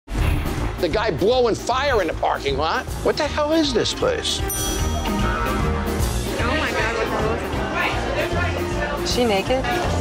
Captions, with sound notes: - The guy blowing fire in the parking lot. What the hell is this place? (bell chiming) (playful music) - Oh my god, what the hell is that? - Is she naked?